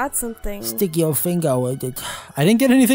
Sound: breath

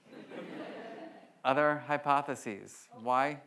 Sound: audience laughs

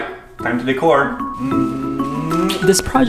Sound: humming

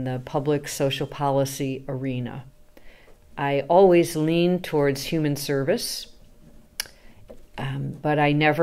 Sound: AC makes clicking noise

